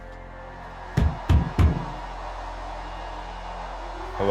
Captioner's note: fist thumping